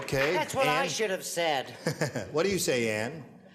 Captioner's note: chuckles